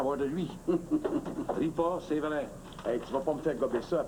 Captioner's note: Ricanement